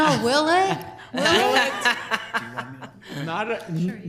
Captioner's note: laughing